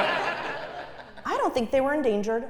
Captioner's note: laugh